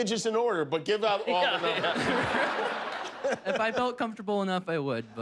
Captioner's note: laughter